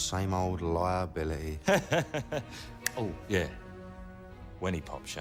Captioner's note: laughs